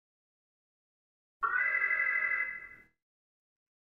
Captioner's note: alarm